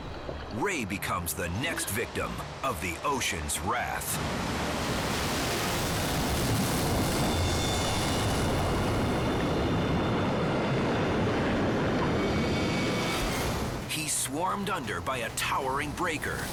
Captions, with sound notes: Ray becomes the next victim of the ocean's wrath. (wave thundering) He's swarmed under by a towering breaker